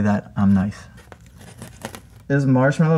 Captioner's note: sticker rips